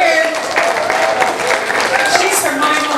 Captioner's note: audience applause